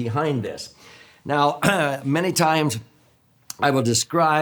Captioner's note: clears throat